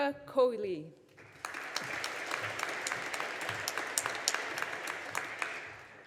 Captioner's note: audience applauding